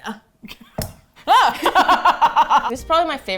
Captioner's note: both laugh